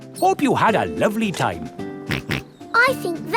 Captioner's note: snorts